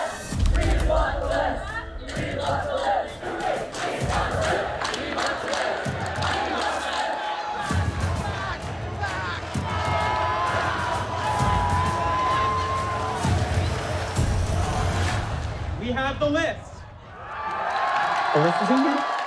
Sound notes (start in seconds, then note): 10.3 group cheers and shouts; 17.0 cheers